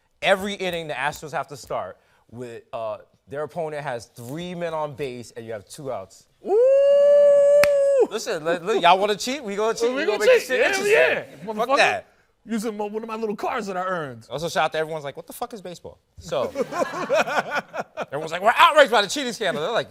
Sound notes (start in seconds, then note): 16.4 laughter